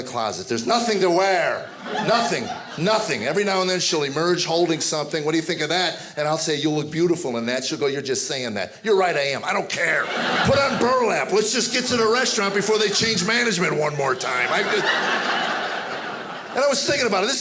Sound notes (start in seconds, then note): 10.3 audience laughing; 14.9 audience laughing